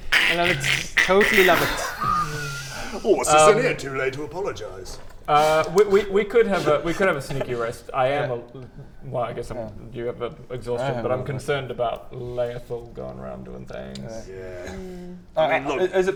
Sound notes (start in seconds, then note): 0.0 joke shoehorn noises; 2.3 winces